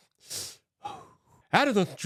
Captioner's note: vocalizes skeptically